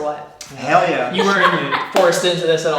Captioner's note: laughing